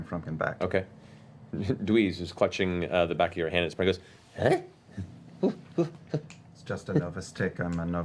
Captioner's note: confused sound